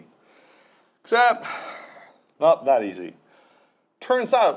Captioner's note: sighs